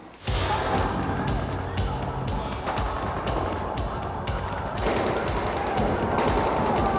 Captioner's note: all screaming; guns firing